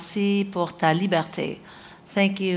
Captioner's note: foreign language